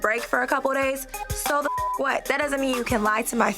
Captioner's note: beep